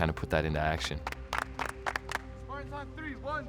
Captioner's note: everyone claps